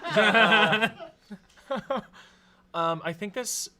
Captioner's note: everyone laughs